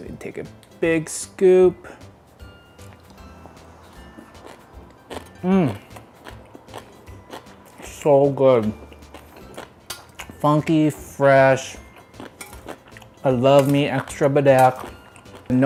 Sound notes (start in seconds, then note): 3.9 food lightly crunching